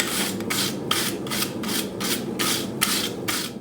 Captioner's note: brush brushing